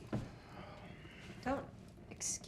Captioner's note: Ben sighs